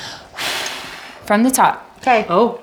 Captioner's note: takes deep breath